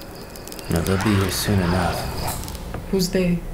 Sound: distant animals, wood cracking

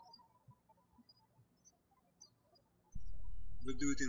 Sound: birds chirping

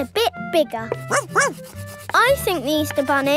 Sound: barks

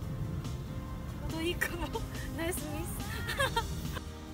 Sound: laugh

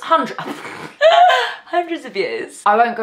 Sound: laughs loudly

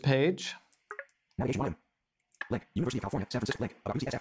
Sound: computer reads fast

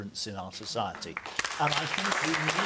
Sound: audience applauds

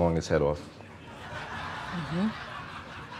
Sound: laughter

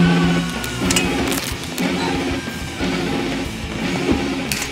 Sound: bones cracking; metal clanking

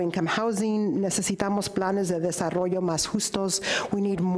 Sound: speaks in foreign language

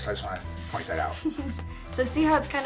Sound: laughing

